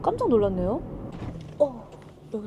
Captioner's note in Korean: 쿵쿵!